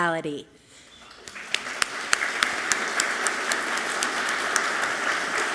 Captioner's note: all clapping loudly